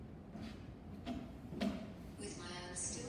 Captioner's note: footsteps